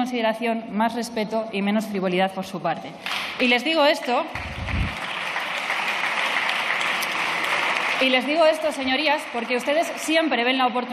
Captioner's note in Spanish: Aplausos